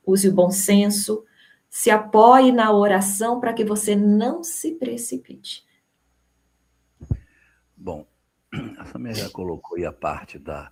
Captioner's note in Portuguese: limpando a garganta